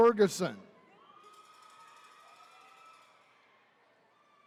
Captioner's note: attendees cheering